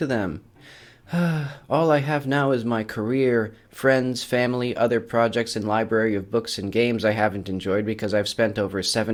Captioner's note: sigh